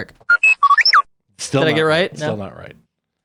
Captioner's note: beep